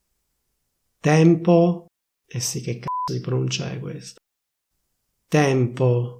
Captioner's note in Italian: beep